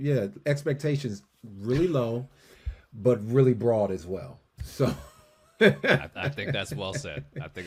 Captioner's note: laughs